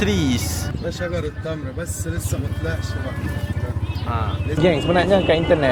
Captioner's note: speaking Arabic